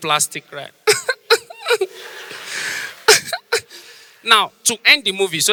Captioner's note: mimics fake crying